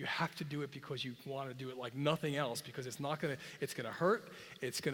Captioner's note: none